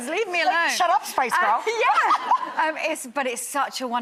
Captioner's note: laughs